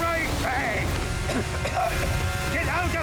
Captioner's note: coughing